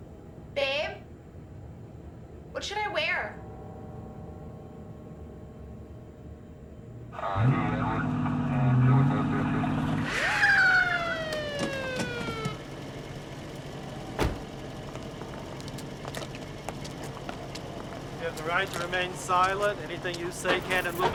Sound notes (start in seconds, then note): 8.5 muffled speaking on radio; 10.4 siren wailing